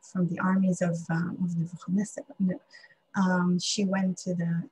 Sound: speaking hebrew

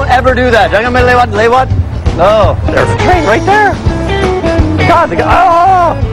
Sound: speaking indonesian

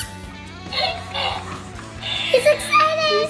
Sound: ball squeaks; balloon makes sounds

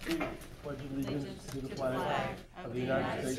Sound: crowd

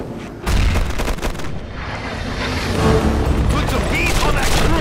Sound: guns firing

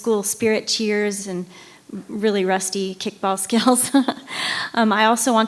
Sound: laughs

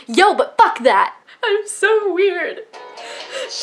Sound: sobbing

